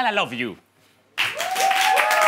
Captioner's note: cheers